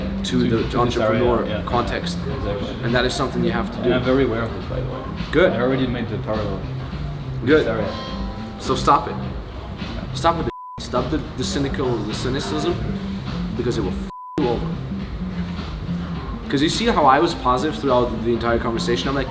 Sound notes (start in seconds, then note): 14.0 beep